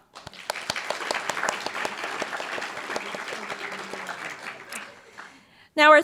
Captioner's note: applause